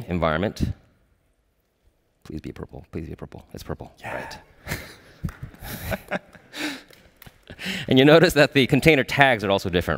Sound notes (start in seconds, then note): 4.6 laughter